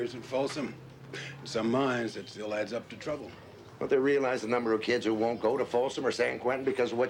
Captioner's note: laughs